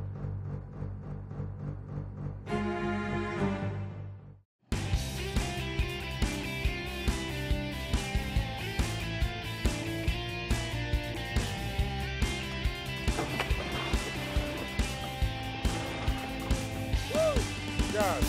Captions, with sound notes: (rock music) (water splashing) - Whew.